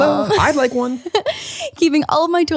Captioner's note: giggles